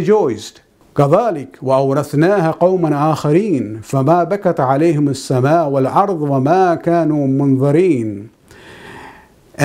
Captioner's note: arabic